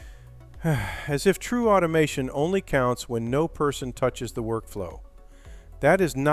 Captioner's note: sighs